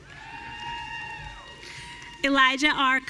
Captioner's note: audience cheering